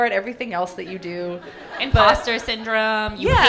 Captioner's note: audience laughing